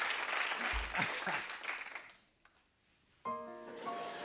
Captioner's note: cheers and applause; laughs; piano music plays